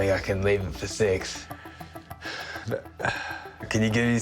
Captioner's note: sighs